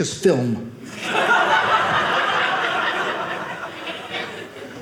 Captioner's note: audience laughing